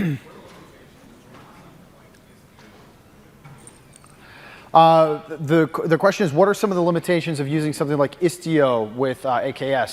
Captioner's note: off mic